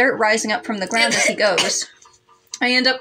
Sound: cough

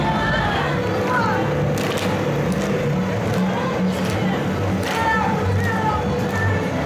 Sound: leader counting out cadence, shoes tapping rhythmically

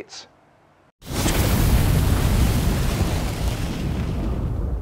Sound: fire sizzling

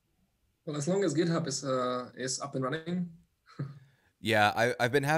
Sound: laughs

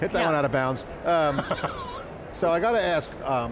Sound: laughing

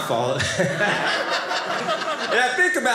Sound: audience laughing

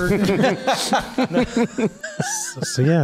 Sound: laughs

